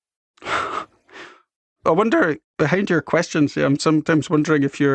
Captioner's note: chuckles